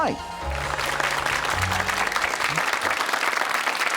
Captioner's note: audience clapping